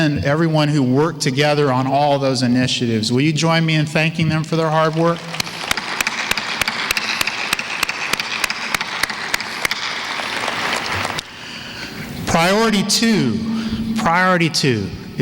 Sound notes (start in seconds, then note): 4.6 applause